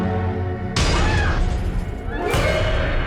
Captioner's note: screams